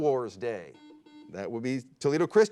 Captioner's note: beep